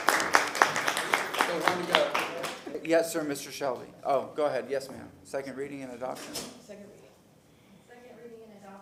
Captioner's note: applause